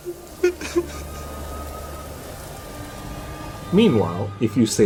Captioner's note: sobbing